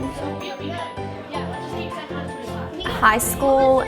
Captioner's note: children chattering